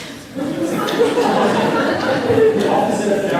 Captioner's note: laughter